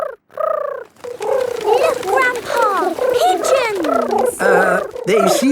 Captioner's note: pigeons cooing